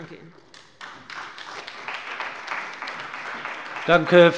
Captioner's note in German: Beifall bei dem BÜNDNIS 90/DIE GRÜNEN und der CDU